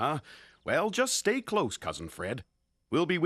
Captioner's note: none